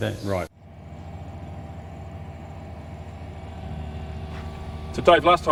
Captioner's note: machine gears shifting